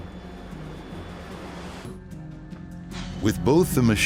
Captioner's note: airplane engine roaring